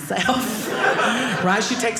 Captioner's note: audience laughing